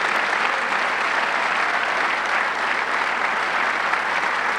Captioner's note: audience clapping